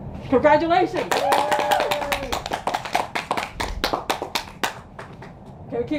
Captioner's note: all cheering and clapping